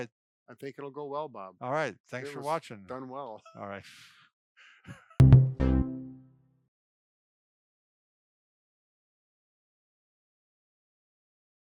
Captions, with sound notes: - I think it'll go well, Bob. - Alright, thanks for watching. (laughing)